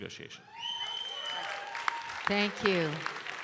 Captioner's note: audience cheering and applauding